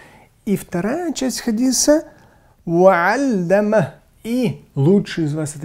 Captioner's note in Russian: говорит на арабском